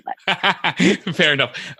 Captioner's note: laughing